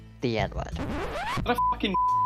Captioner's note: rewind sound